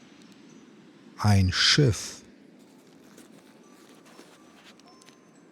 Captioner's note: german